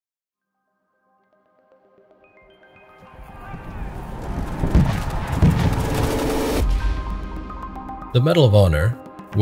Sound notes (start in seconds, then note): 1.8 gentle music; 3.4 men shouting; 3.5 explosions booming